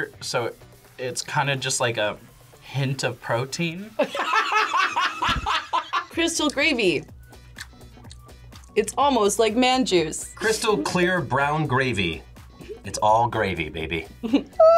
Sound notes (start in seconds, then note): 4.0 laughs